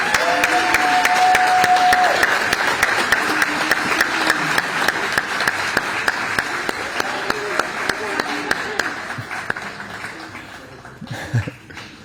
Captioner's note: applause